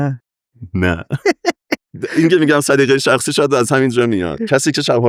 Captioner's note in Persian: خنده